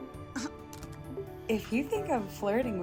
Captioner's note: scoffs